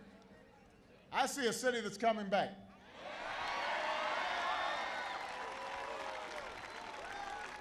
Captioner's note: applause